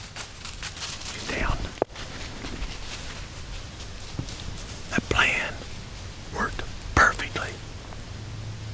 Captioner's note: whispering; whispering